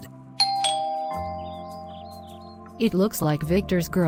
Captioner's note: door bell